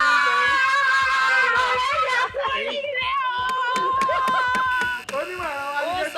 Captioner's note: excited